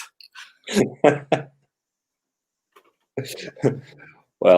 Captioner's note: laughter